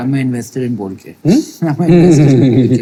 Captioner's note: laughing